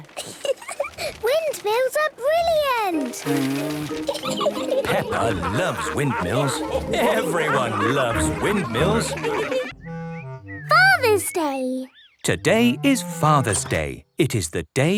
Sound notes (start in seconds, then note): 3.7 blows